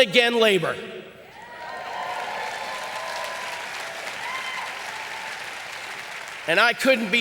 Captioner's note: audience applauding and cheering